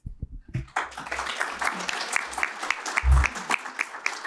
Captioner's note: applause